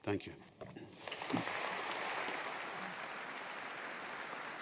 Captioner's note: audience applauding